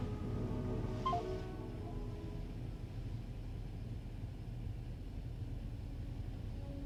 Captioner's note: phone chimes; pensive music